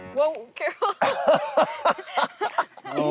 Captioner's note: laughter